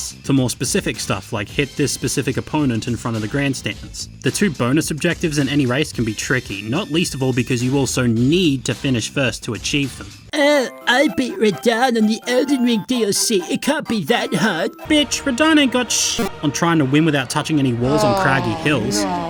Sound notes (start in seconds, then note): 10.6 in a mocking tone